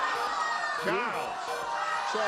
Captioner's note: groans